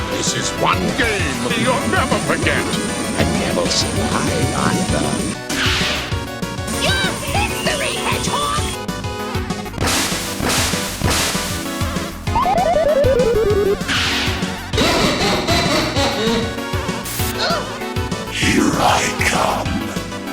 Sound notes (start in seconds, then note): 14.7 even bigger asshole laughter; 14.7 asshole laughter